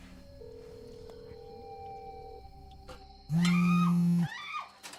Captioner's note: phone ringing; phone buzzing; Jessica screaming